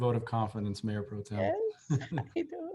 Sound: laughter

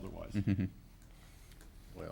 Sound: laughs

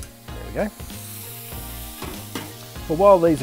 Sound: meatballs sizzling

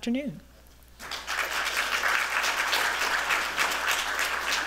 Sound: applause

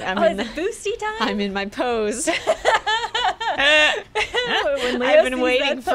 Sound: laughter

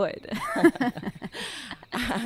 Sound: they both share a chuckle

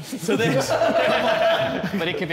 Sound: Sidemen laughing

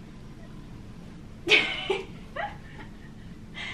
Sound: laughs

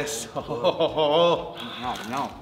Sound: laugh

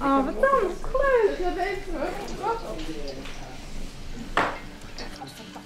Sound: background rumour

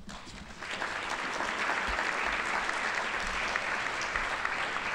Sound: audience applauding

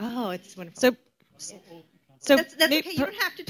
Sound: many people talking at once

